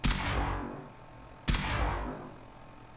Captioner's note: single laser sound